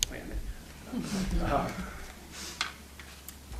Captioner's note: laughing